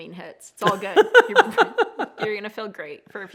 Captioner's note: laughs